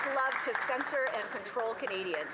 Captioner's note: some Applause